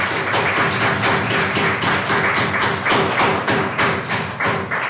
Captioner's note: applause